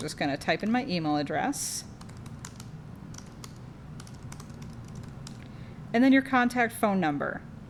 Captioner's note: typing